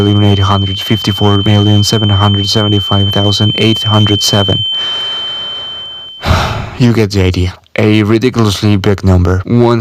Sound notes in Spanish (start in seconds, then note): 6.1 toma aire